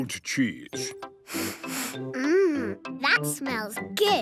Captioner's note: sniffs